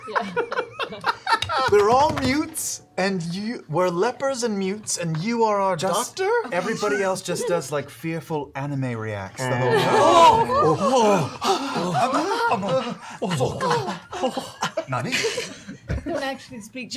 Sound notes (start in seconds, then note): 10.5 gasping; 14.4 speaking in Japanese